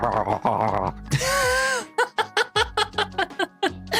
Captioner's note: laughs